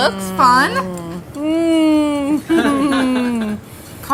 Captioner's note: laughter